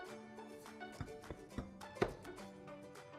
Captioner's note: tap tap tap